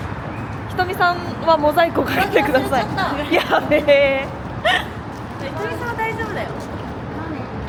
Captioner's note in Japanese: 笑い